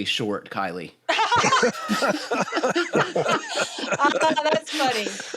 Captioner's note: laughter